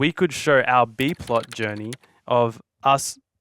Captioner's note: keyboard clacking